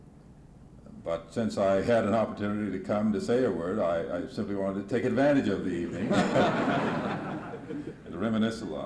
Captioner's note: laughter